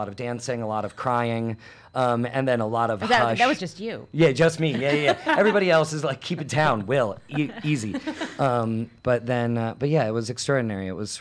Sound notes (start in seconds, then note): 4.7 laughs; 6.2 laugh